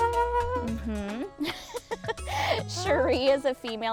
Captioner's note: laughing